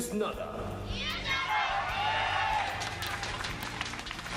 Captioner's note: cheering